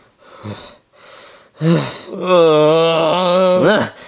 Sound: Mario panting; Bowser groaning

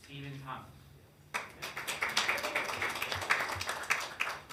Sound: hands clapping

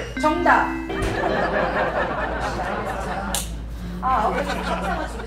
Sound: laughter

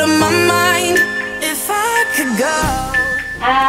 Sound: timer beeping

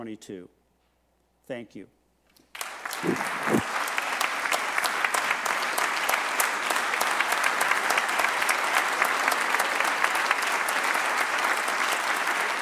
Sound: applause

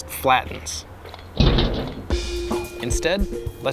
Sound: thud echoes

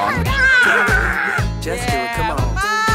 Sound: daughter roars

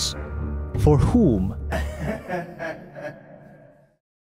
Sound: laugh echoing

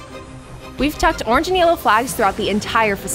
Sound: voice-over

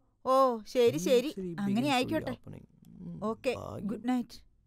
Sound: murmuring

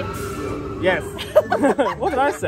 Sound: laughs

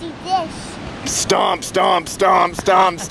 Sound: gravelly voice; laughing

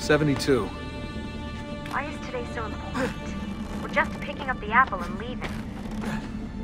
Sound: Lucy through radio

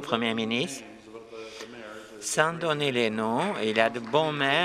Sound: applause

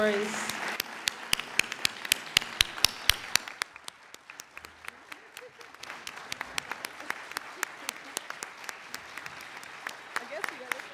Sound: applauding

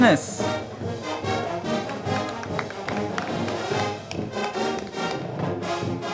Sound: band music; crowd clapping

